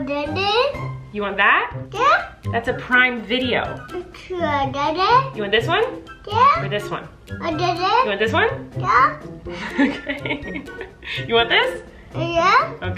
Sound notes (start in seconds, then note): 9.6 laughs